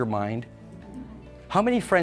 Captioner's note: audience laughs